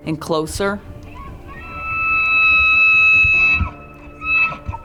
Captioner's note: elk bugling